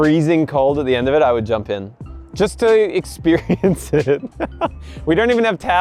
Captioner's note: laughs